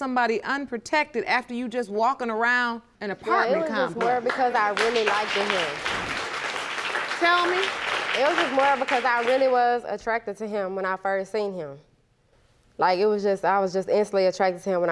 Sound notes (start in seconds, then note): 3.5 audience applauding